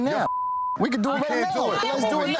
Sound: beep

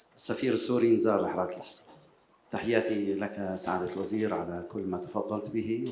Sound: speaking in foreign language

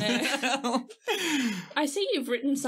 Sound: laughing

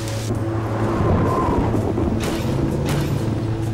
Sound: thunder

